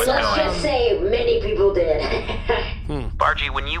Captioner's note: proud cackling